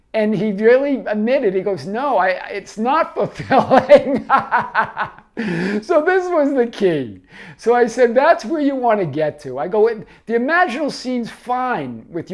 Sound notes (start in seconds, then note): 3.3 laughs